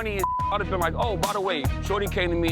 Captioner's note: beep